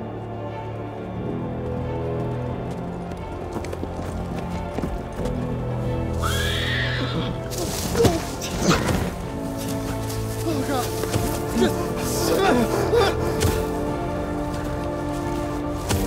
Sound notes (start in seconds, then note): 0.3 music intensifies; 6.2 whinny; 13.0 footsteps